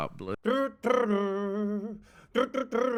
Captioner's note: humming